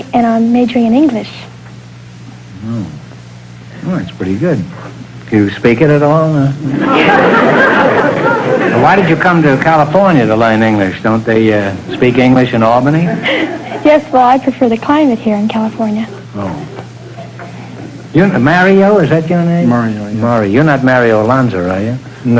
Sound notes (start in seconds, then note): 6.6 audience laughter